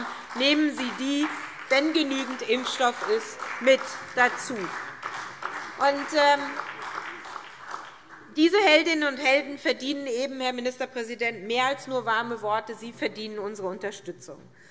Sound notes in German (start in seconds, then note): 4.4 Beifall SPD